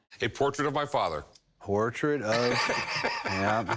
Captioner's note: laughs